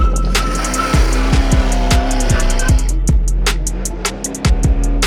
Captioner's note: engine revving